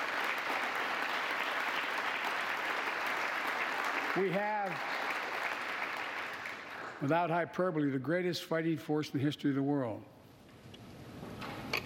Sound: applause

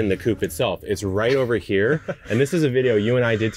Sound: laughing

